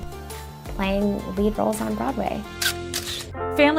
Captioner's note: camera shutter